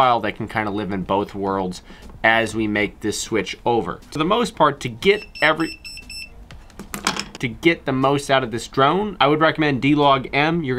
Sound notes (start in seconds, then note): 5.1 beeping